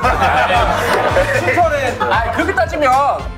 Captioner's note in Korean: 빵 터짐